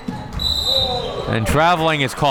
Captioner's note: whistle tweeting